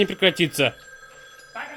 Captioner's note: telephone rings